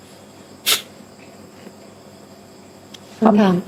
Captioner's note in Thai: เสียงสูดหายใจ